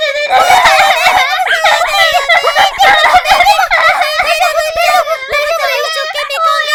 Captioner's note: loud crying